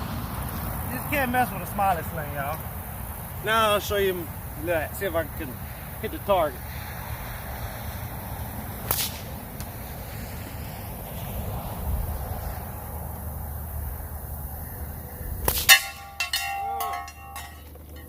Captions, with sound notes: You just can't mess with a Smiling Sling, y'all. Now, I'll show you... see if I can hit the target. (sling snaps) (splash) (sling snaps) (metal rings loudly) Uhn.